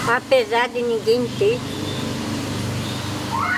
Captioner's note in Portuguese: veículo ruidoso passando na rua; grito de criança